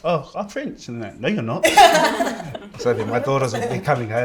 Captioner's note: laughter